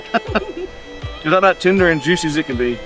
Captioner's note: laughs